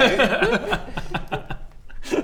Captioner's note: laughs sarcastically